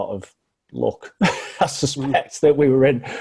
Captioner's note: laughs